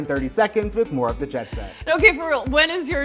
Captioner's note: laughs